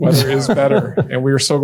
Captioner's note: chuckles